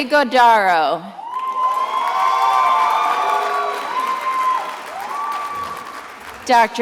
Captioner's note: attendees applauding and cheering